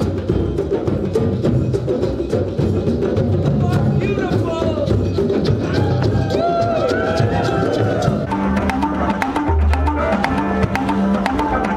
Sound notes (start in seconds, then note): 5.6 all whooping; 8.5 talking drum talks